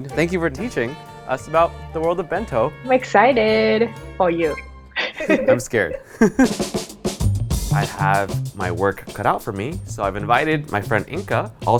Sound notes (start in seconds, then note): 5.0 laughs; 7.2 upbeat music